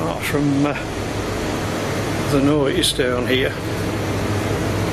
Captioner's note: none